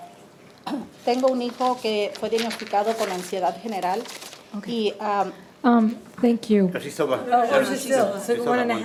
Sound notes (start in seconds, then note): 1.3 speaking in foreign language